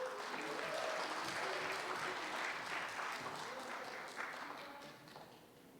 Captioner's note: applause